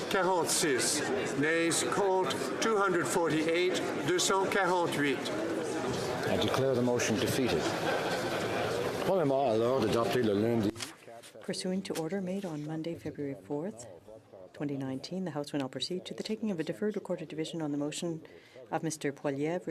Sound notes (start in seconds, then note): 13.1 speaking French